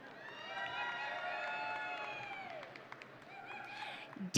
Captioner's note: audience cheering